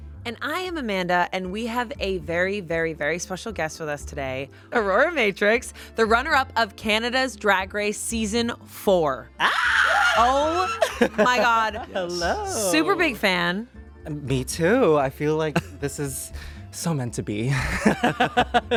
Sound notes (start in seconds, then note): 9.4 squeals; 17.6 laughs